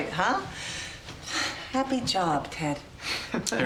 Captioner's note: sighs